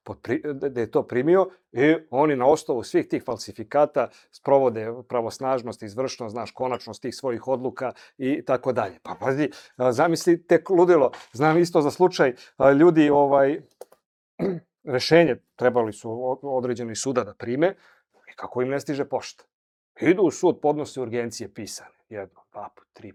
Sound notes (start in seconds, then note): 14.4 coughs